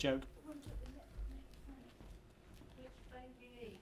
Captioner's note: murmuring